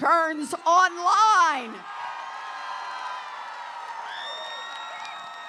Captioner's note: applause